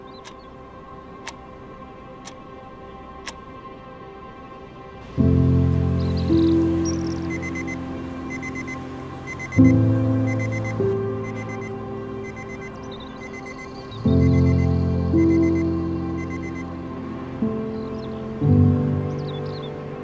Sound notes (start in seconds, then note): 5.7 birds tweeting; 7.2 alarm beeping; 16.2 birds tweeting